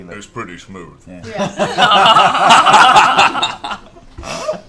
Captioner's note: laughter